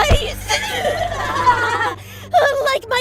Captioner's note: glitchy laughter